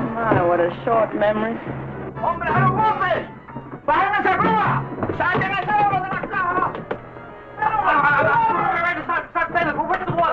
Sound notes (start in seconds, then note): 1.9 General Tostada speaking in Spanish; 8.4 stutters